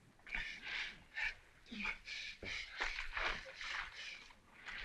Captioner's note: bravo gasping